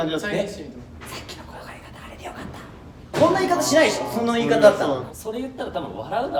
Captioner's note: whispers